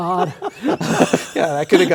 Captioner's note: laughter